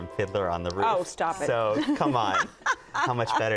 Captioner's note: laughs